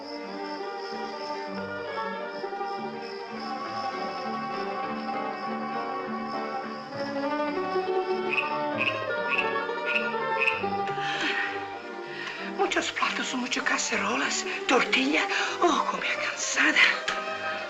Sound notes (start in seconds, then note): 0.1 evocative music; 7.6 frog croaking; 12.4 elena complains in spanish of having a lot of work